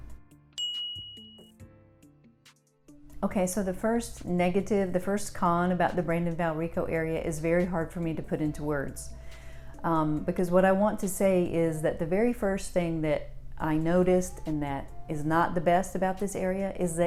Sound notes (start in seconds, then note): 0.6 bell dings